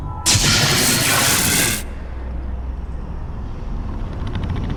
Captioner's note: static hissing